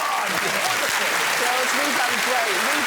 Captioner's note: applause